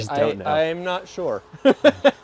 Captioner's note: laughing